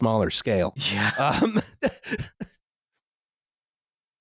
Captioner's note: laughs